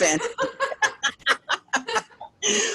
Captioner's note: laughing